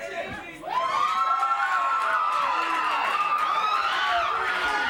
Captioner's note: crowd cheering